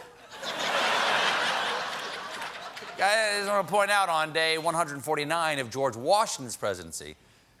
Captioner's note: laughter